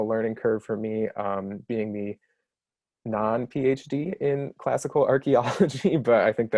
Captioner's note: laughs